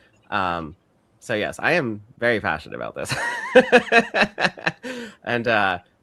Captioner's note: chuckles